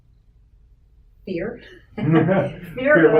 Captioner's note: laughing